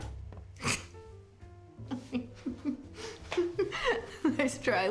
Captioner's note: drucinda laughing